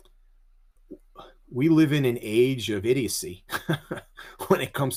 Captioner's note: chuckles